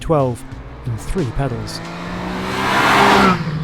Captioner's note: engine revving